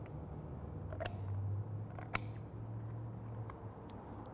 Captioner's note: shears snipping